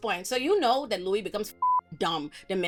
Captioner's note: beep